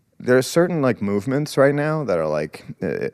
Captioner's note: none